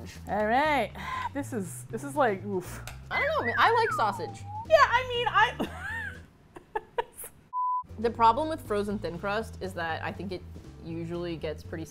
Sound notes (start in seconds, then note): 3.1 whimsical whistle sounds; 6.5 both laugh